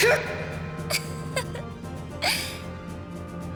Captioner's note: giggle